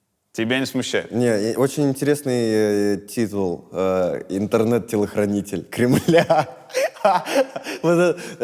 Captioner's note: laughs